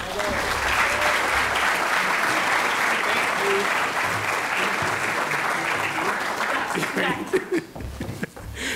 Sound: applause

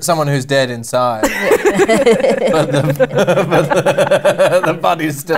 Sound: laughter

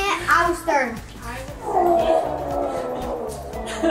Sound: grunts

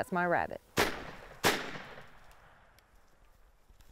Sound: gunshot

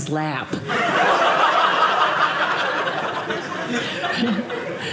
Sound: audience laughing

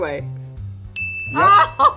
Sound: ding

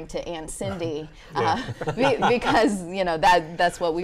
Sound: laughing

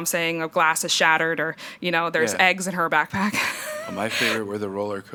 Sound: chuckles

